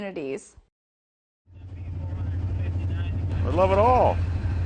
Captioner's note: train rumbles and hums